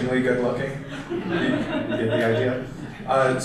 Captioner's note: audience laughter